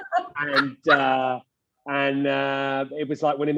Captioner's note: all laughing